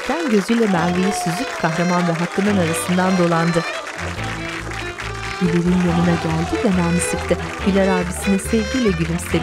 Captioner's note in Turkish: Alkış sesleri